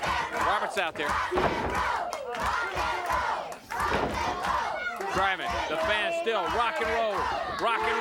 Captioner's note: applause